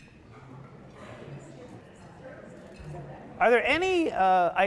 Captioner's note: audience chattering